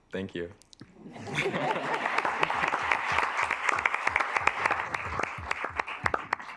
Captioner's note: assembly clapping; assembly chuckling